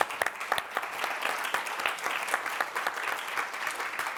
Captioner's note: applause